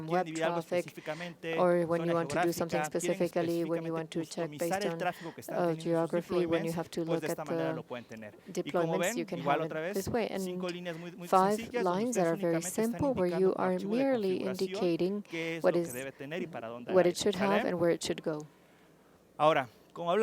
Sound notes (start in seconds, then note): 13.1 hablando inglés